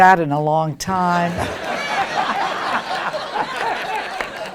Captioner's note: crowd laughing